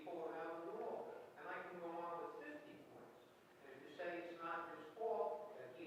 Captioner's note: audience member speaking softly off microphone